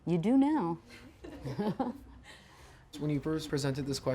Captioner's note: laughing